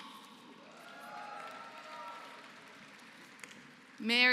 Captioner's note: applause